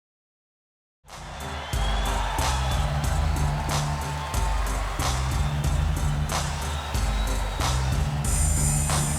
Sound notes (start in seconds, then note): 1.1 upbeat music; 1.5 crowd murmuring